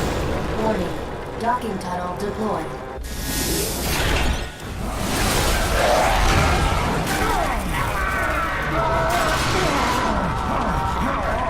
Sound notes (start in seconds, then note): 8.0 yelling